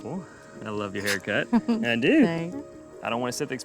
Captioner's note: giggles